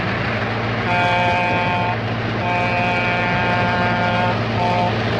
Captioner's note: train whistle blowing